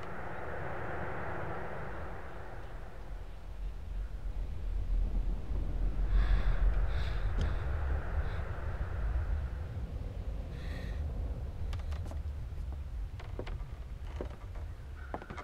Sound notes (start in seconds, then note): 4.5 air whooshing; 11.5 porch creaking